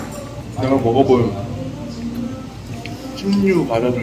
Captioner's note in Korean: 오물 오물